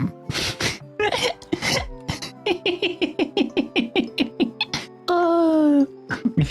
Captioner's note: laughing